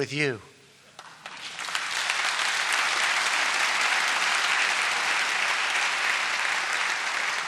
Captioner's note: applause